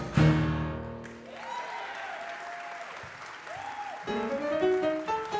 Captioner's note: audience applause